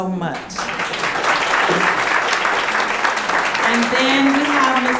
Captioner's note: audience clapping